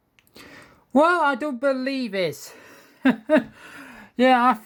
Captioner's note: chuckles